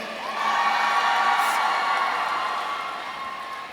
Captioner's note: audience cheering